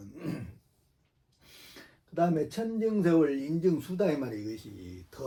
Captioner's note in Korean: 목을 가다듬음